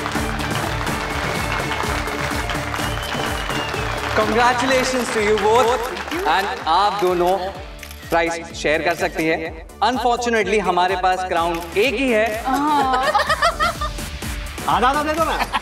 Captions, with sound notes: Congratulations to you both. You both can share the prize. Unfortunately, we have just one crown. [everyone laughing] Break it in half.